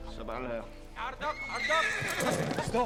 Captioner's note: speaking in arabic; horse neighs